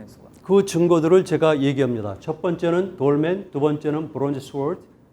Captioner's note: speaking in Korean